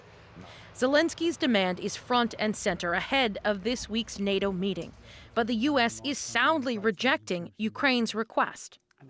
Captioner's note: speaking alternate language